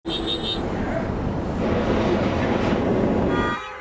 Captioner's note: horns honking